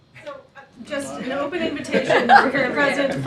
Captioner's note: laughter